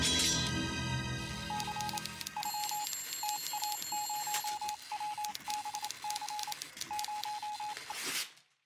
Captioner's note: suspenseful music; telegraph beeping, typing